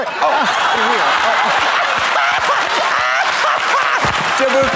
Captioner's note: audience laughs; Trixie cackles and claps